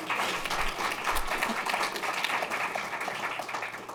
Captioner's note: applause